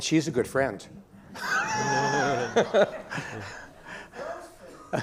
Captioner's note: laughing